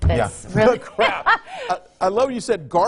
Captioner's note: laughing